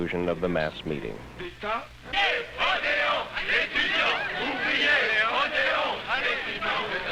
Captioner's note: French